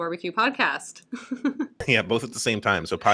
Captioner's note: laughter